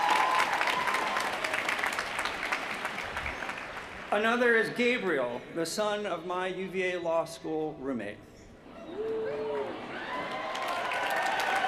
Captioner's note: cheers & applause